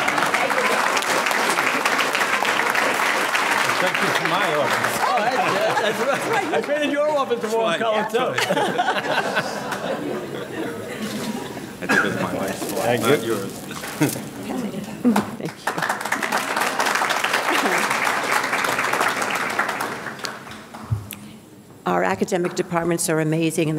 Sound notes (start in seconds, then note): 0.0 audience laughing; 0.2 audience clapping; 9.3 audience laughing; 15.4 audience clapping